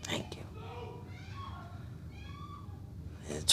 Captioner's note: gilda yelling in the background